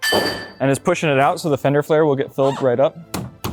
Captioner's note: bang